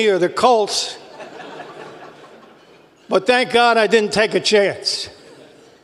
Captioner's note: laugh